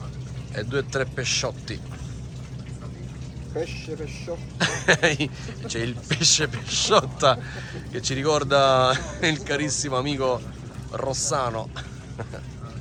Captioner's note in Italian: Risate